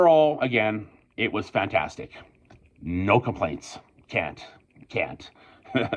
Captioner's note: I laugh